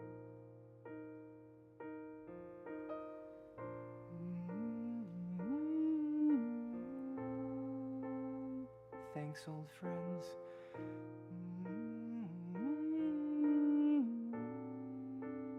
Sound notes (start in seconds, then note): 4.0 humming to music; 11.2 humming